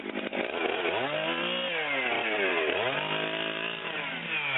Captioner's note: cutting sounds